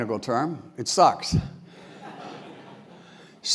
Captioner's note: laugh